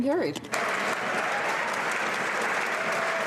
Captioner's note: applause